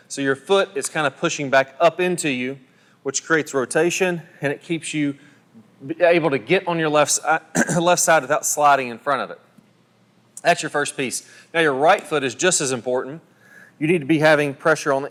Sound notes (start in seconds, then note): 7.5 coughs